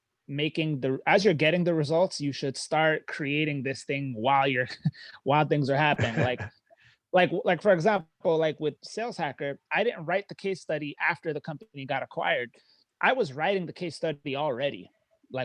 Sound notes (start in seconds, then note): 5.9 chuckling